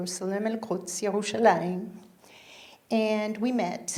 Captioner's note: speaking in foreign language